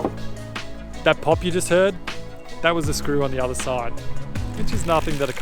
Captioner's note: loud Pop